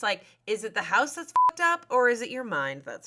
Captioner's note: beep